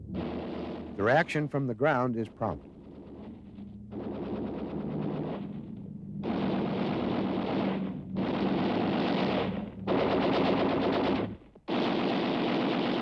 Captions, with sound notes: Their action from the ground is prompt. (gunfire)